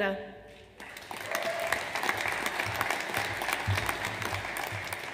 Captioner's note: audience applauds